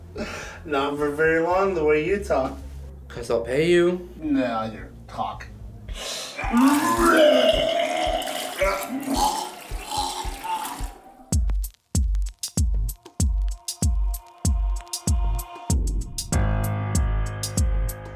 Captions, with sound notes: - Not for very long, the way you talk. - 'Cause I'll pay you. - Now you're talking. (pukes) (intense piano music)